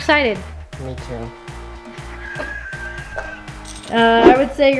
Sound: chuckles

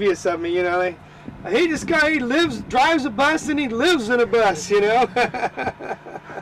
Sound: laughter

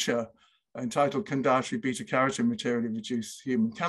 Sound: speaking foreign language

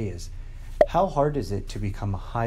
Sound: popping

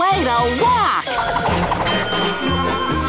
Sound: dinging

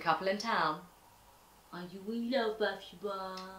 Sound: baby voice

